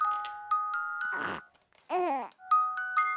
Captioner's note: burps